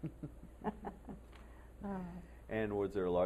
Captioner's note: laughter